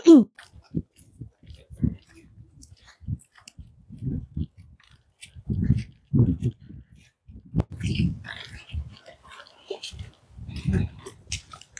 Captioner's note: crunching footsteps